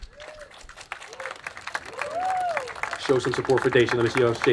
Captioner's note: attendees applauding